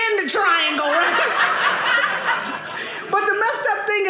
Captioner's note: audience laughing